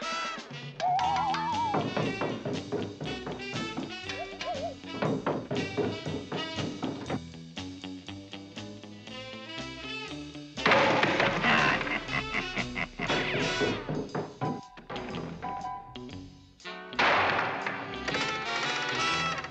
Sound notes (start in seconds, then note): 11.2 laughing